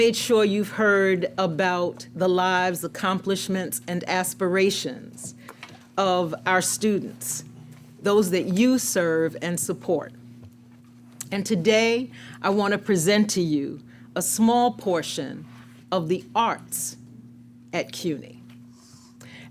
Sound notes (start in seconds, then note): none